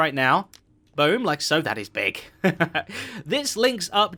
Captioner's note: chuckles